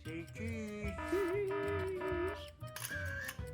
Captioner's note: alarm ringing; camara clicks